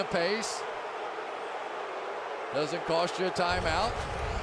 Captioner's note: crowd booing